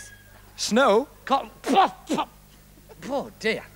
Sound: coughs loudly

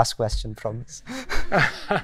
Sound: laughter

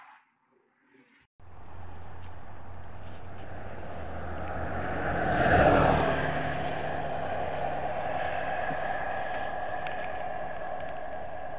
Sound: engine sound

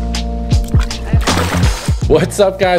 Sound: splash

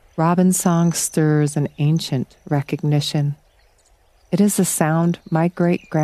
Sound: insect chirps, hummingbird rolls

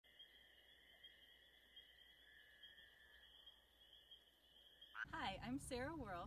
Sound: frogs chirping

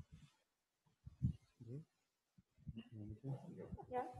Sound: murmuring

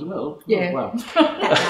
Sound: laughter; laughs

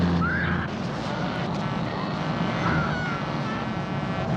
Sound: truck horn

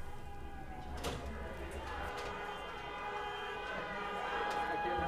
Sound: people chattering

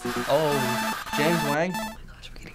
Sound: distorted ringing

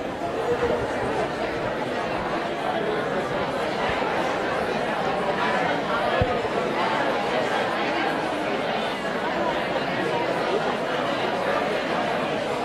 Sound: audience chatter

